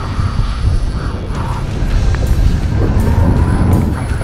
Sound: reel whirling

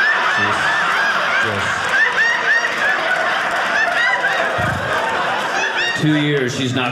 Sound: audience laughing

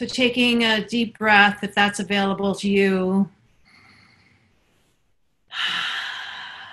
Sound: inhales

